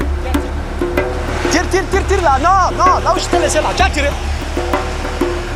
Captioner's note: foreign language